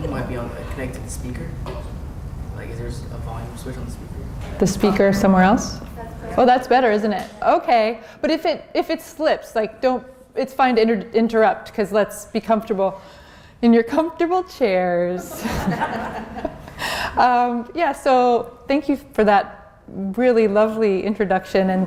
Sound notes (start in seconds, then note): 15.2 laughter